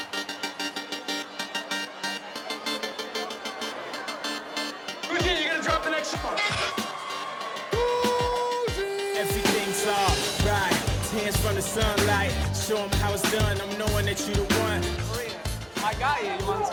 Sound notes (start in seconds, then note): 0.2 upbeat music; 7.8 shouts